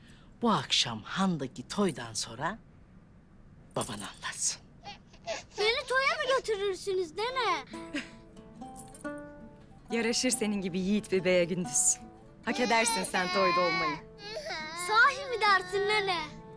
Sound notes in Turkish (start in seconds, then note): 7.9 Gülme sesi